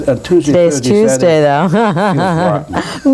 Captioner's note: laughs